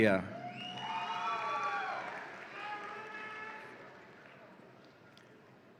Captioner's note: audience applauds and cheers